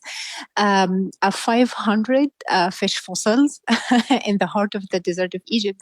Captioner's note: laughs